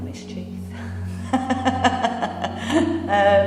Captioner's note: laughing